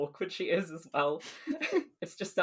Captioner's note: both laugh